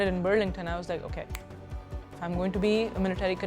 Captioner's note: fingers snapping